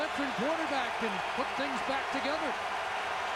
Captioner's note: applause and cheering